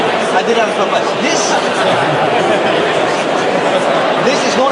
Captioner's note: crowd laughs